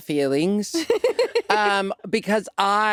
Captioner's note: chuckling